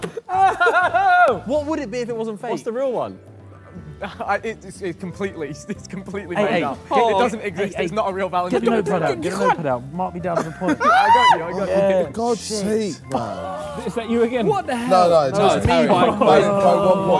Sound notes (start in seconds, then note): 13.1 men yell